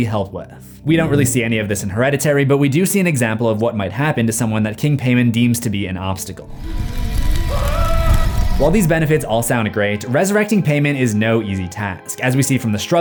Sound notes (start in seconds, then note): 7.1 scream